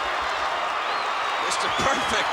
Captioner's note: audience cheering